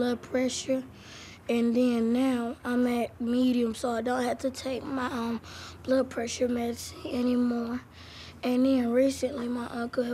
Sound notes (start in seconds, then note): none